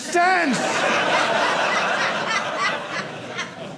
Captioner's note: audience laughing